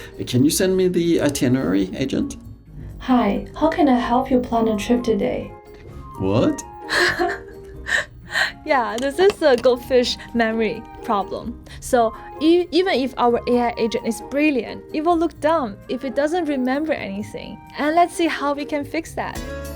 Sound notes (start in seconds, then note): 6.9 chuckling